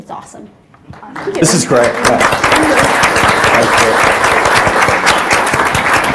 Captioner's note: everyone applauds